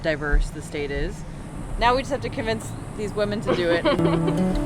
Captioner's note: laughter